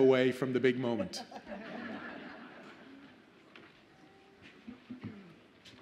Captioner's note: audience laughs